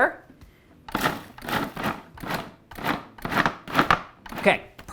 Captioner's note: food processor whirs